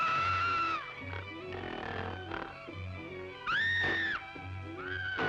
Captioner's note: scream